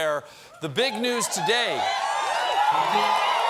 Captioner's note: applause